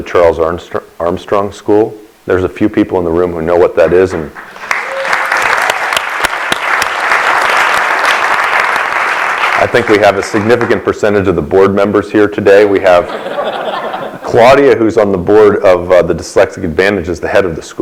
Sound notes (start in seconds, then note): 8.3 applause; 12.9 laughter